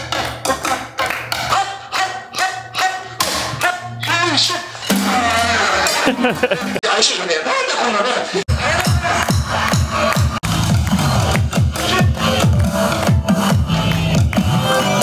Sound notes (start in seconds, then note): 5.6 chuckles; 7.0 drummer speaks in japanese